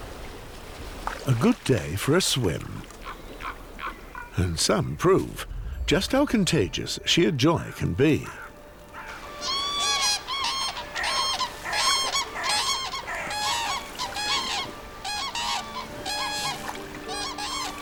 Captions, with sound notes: A good day for a swim. And some prove just how contagious sheer joy can be. [cranes cawing]